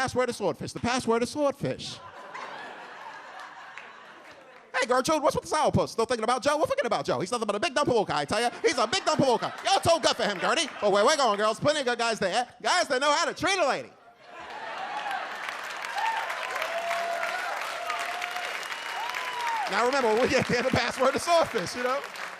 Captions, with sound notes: is swordfish, the password to swordfish. Hey Gertrude, what's with the sourpuss, still thinking about Joe? Well forget about Joe. He's nothing but a big dumb palooka guy, I tell ya, he's a big dumb palooka guy, you're too good for him, Gerddie. Oh, where we going girls, plenty of good guys there, guys that know how to treat a lady." (audience laughs) (audience applauds) "Now remember when we get there the password is swordfish."